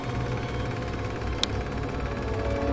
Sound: switch flicks

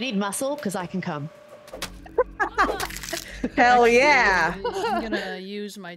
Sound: laugh

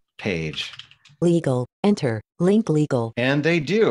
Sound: automated Voice

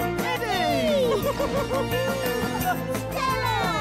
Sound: Stella giggles

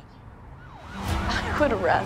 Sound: sirens

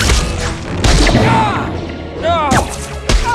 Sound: yells

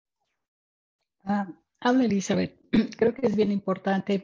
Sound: speaking in spanish

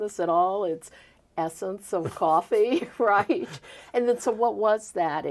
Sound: both laughing

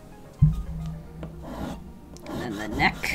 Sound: drawing noises

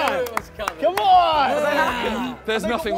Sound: contestants clapping

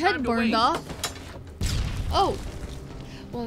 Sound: poof

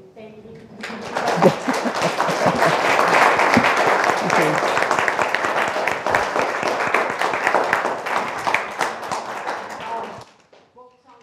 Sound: applause

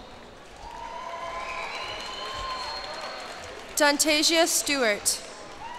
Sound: cheers and applause

